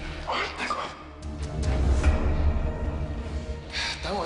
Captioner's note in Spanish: Habla entre dientes